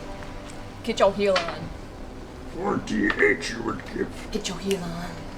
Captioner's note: Yoda voice